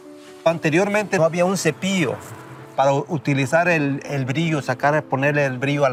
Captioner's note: gentle music; speaking in Spanish